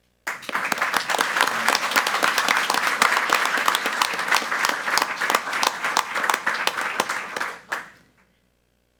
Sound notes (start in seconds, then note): 0.2 group applauding